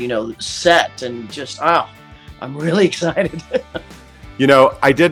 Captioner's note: laughs